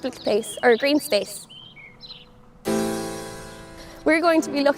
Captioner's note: birds chirping